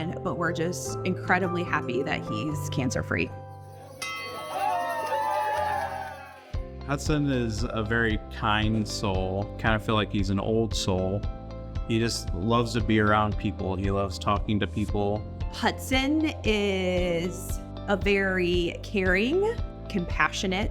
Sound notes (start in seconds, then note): 3.7 bell dings; 4.0 staff cheers and claps